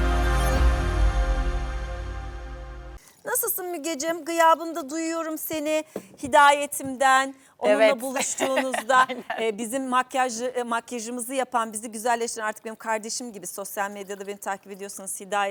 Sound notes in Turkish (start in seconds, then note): 7.9 kahkaha